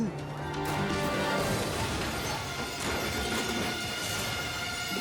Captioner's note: car crashing